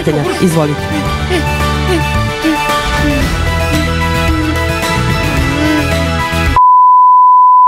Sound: groans all confused

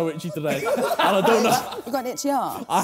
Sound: laughing

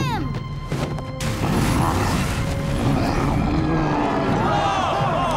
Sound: grunting

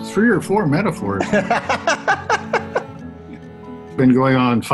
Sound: laughs

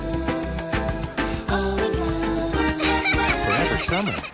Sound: laughing

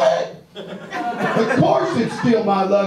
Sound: audience laughs

